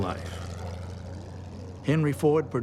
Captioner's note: airplane engine humming